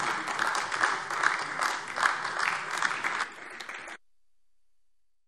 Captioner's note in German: Beifall AfD